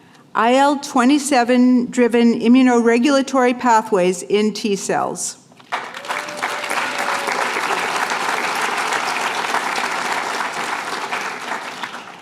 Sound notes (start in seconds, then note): 5.6 applause